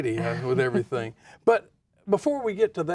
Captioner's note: laughs